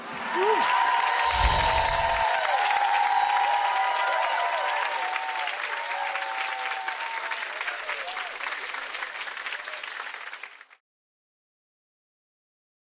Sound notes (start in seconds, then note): 0.1 crowd cheering; 1.3 twinkling; 7.4 twinkling